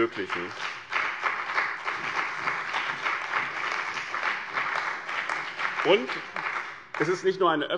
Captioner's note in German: Beifall bei dem BÜNDNIS 90/DIE GRÜNEN und der CDU